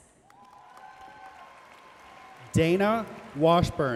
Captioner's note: audience cheering and applauding